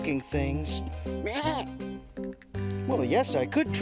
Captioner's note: goat bleating